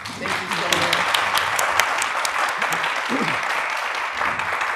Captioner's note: all applauding